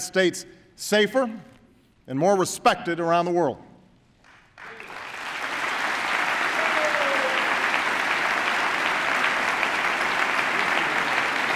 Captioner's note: applause